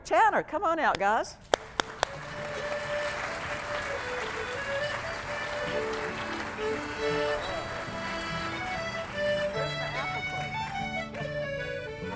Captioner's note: applause